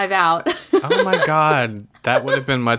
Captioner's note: laughs